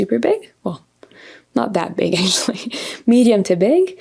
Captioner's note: laughs